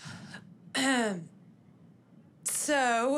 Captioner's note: clears throat